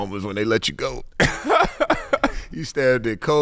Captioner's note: laughing